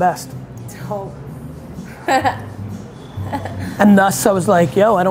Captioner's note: laughs